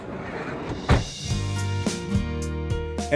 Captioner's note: car door closing